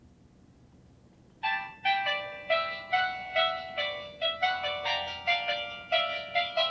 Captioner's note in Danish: telefon ringer